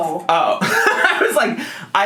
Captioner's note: laughs